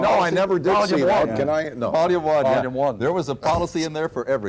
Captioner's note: multiple voices